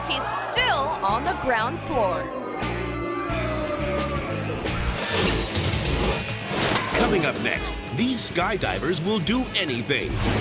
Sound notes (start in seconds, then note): 2.3 crowd boos; 3.2 upbeat instrumental music